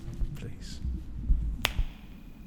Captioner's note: snaps fingers